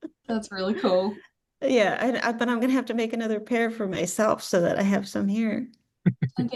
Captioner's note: chuckles